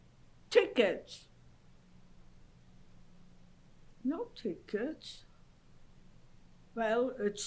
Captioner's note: pauses for 3 seconds